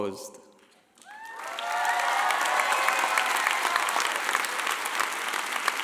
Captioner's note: clapping; shouting